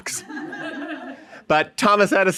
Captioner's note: audience laughing